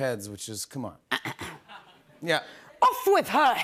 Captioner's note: clears throat